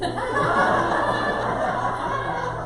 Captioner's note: audience claps